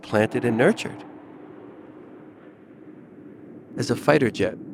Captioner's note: jet engine roars